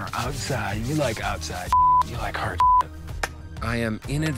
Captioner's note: beep